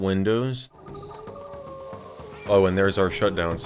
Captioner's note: Dangerous Creatures shutdown sound